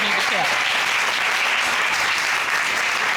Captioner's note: audience applauding